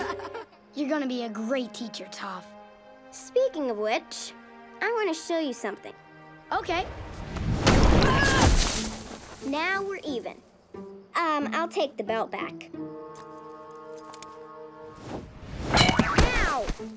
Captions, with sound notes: You're going to be a great teacher, Toph. Speaking of which, I want to show you something. Okay. [stomping, groaning] Now we're even. Um, I'll take the belt back. Ow.